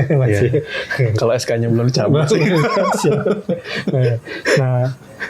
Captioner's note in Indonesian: tertawa